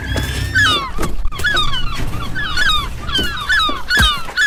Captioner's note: gulls squawking loudly; stick whacking; gulls squawking loudly; stick whacking